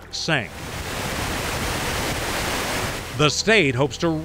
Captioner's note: water rushing